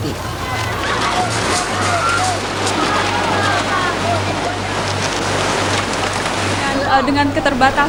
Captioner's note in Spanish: Gritos, agua que corre